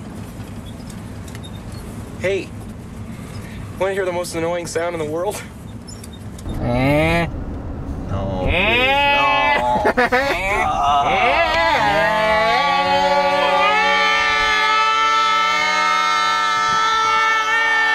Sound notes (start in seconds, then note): 5.6 laughs; 9.1 chuckles